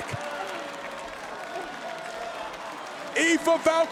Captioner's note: crowd applauds